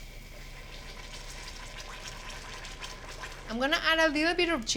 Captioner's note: bubbling